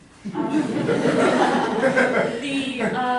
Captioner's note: laughter